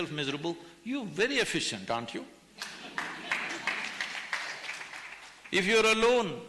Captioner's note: laughter/Applause